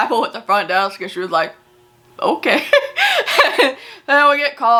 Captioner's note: laughs